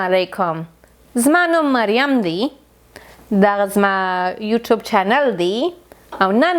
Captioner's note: speaking in foreign language